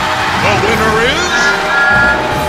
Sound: thomas whistling

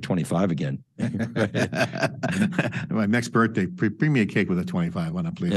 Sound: laughs

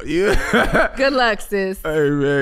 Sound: laughing

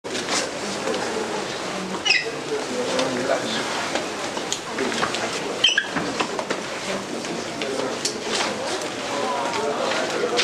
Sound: background chatter

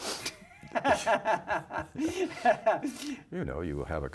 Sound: laughing

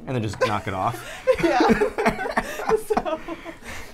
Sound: laughs

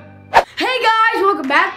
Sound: air whistling

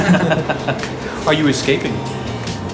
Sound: laughs

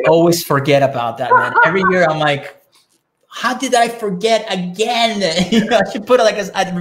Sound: laughing

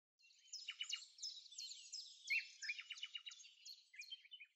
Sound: birds chirping

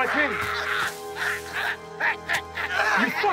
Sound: growling

